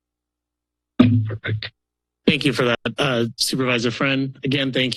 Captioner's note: mic thuds